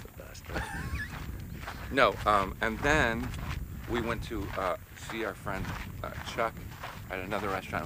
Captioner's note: laughs